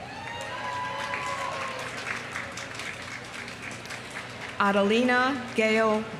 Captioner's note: audience cheering; audience applauding